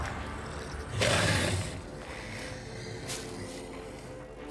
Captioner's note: growling